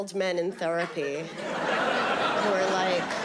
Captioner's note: audience laughing